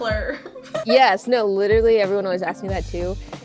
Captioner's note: chuckles